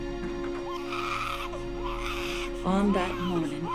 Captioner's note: pigs squealing